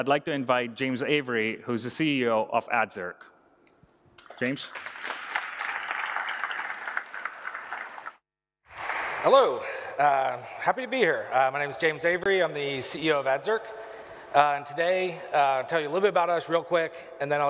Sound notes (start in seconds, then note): 4.2 applause